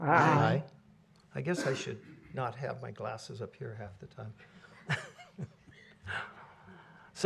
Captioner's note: laughter